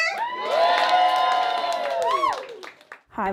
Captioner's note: audience applause